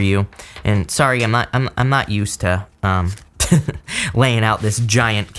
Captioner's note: chuckles